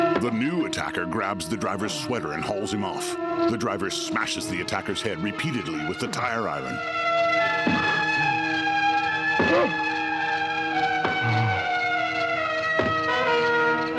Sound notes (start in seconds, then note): 5.7 grunting